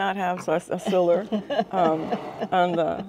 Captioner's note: laughing